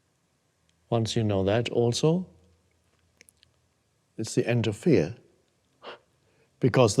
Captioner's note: chuckles